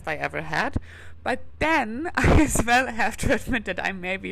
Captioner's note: laughs